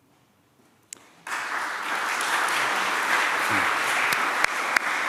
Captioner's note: applause